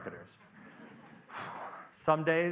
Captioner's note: audience laughing softly